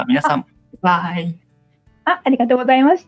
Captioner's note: laughs